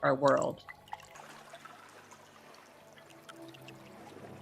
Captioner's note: water trickling